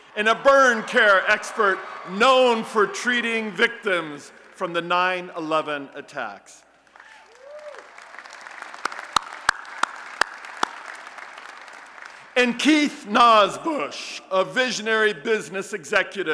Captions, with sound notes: and a burn care expert known for treating victims from the 9/11 attacks. [ Applause and Cheering ] And Keith Nosbusch, a visionary business executive